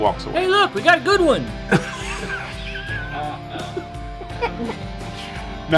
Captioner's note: light laughing from around the table